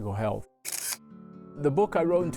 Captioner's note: camera shutter clicking